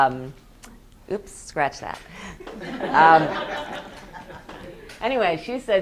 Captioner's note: students laughing